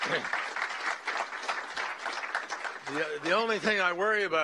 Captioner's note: applause